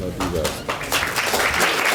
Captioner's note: applause